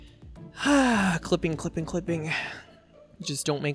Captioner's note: sighs